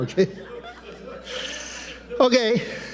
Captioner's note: everyone laughing